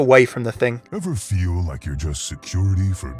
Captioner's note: voiceover